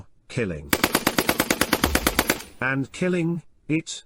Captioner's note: machine Gun Fire